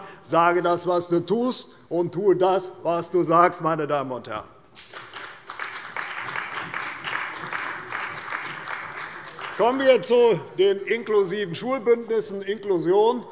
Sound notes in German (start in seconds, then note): 4.7 Beifall bei der CDU und dem BÜNDNIS 90/DIE GRÜNEN